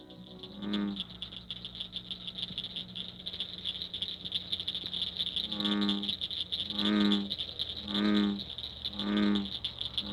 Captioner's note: nature sounds